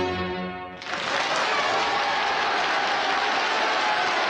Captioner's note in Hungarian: tapsvihar, éltető kiabálás